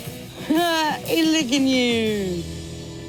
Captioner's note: exclaims